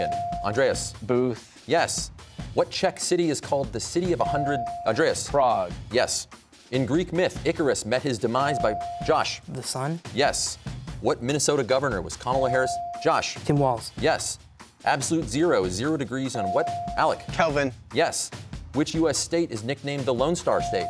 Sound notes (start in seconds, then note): none